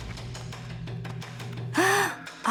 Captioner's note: gasping